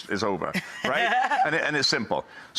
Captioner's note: laughs